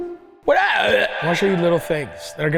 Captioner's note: indistinct grunting